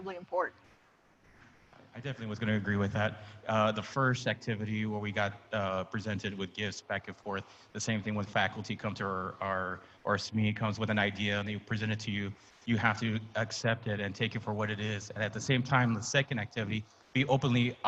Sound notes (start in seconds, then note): none